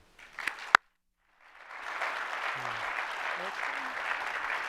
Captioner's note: applause